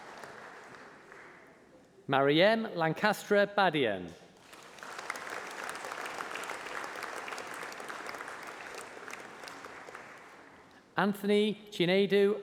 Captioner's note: applause